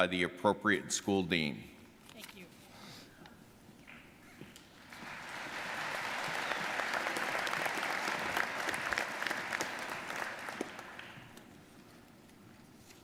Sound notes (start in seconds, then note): 4.6 audience applauding